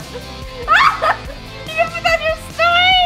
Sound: laughs

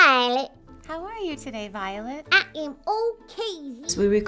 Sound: dialogue fades

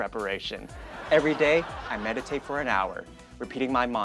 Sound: audience laughing

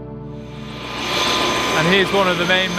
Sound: engine whirring

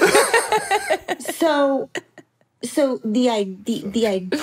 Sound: laugh

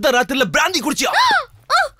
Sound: gasps

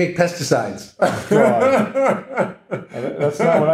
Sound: laughing

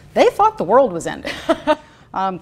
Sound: laughing

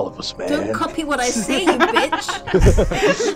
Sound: Cynder voice; laughter

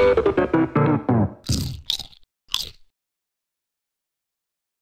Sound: crunching noises

